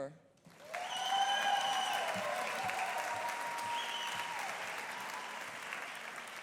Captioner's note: audience applauding; audience cheering